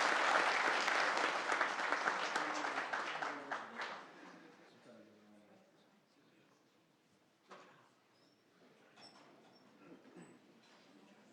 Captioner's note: applause